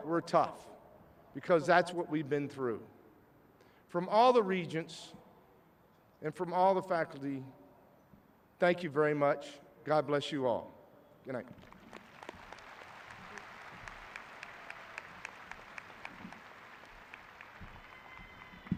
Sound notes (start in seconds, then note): 11.5 clapping